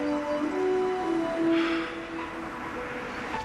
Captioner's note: sighs